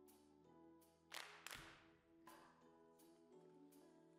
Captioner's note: claps